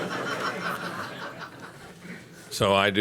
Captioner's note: laughter